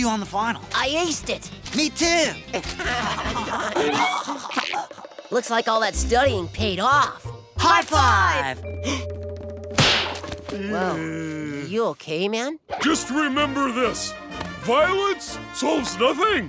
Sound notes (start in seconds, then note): 2.5 laughing; 8.3 gasps; 10.1 groaning